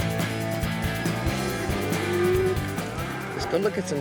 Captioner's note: cattle moo